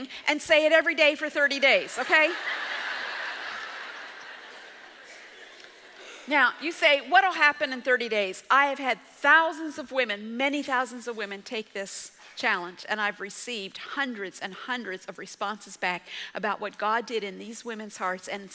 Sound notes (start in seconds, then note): 1.9 audience laughs